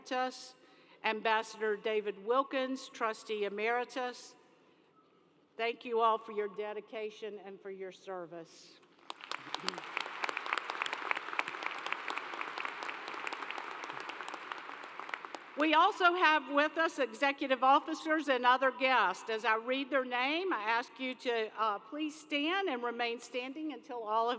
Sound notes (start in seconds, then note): 14.2 applause